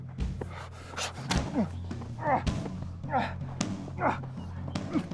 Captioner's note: grunting